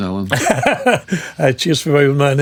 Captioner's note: laughing